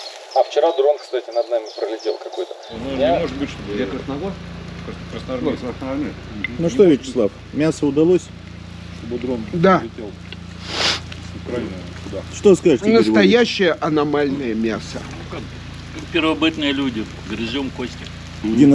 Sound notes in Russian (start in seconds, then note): 10.6 фыркает